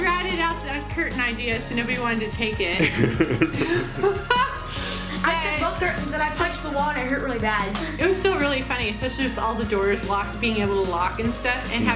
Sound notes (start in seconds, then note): 2.8 laughing